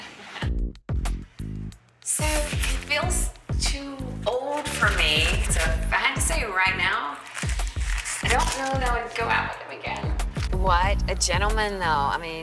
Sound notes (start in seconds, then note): 0.3 laughs; 4.5 paper towel rustling